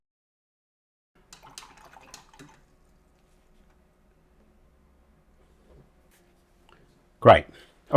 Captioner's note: silence